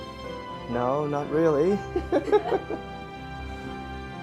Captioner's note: laugh